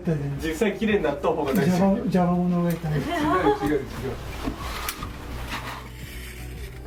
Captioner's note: laughs